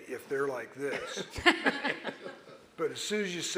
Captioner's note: audience laughing